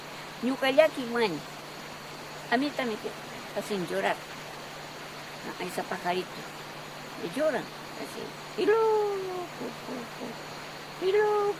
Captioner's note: owl